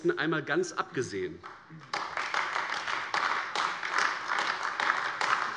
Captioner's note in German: Beifall AfD